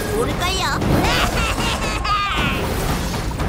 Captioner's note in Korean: 웃음